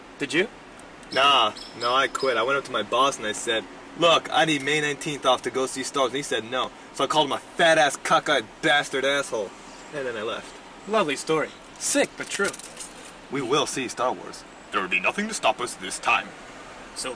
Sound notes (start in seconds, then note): none